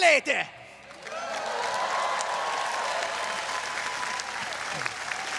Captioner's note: audience cheering